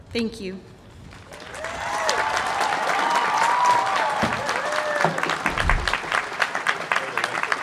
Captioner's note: cheering